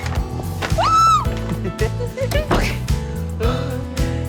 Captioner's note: both giggling